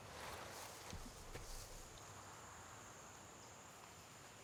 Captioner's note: none